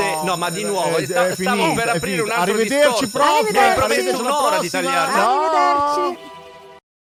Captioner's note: bell rings